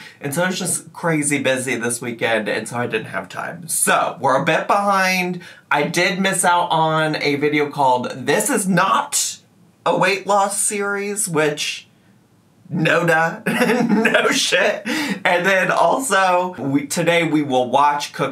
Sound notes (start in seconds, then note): 13.5 laughing